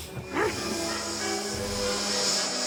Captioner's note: vivien sniffing